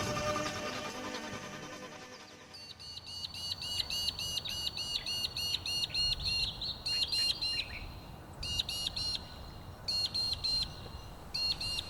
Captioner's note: birds chirping